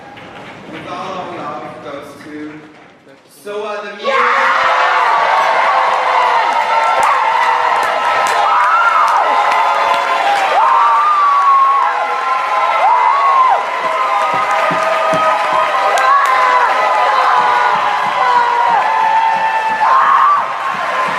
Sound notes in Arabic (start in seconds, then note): 4.5 يهتف الجمهور بعنف